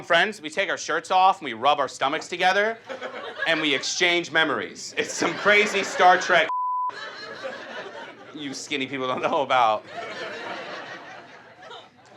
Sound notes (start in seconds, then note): 6.4 beep; 9.8 audience laughs